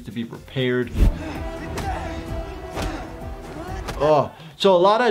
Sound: loud grunting

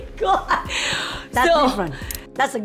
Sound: laughs

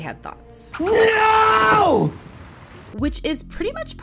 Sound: shouting

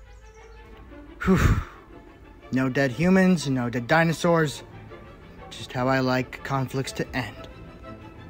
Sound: sighs

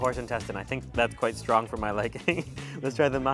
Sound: laughing

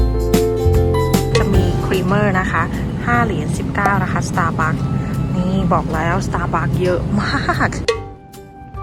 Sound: laughs

